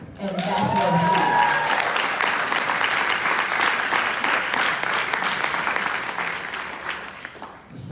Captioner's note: cheering and clapping